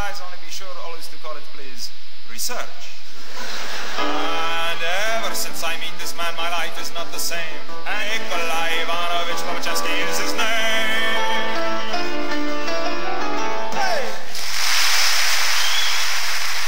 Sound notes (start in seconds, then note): 3.3 laughter; 3.9 music restarts; 10.8 piano outro